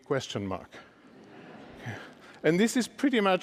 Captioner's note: laughter